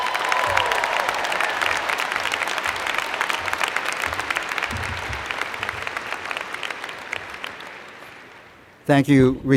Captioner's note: cheers and Applause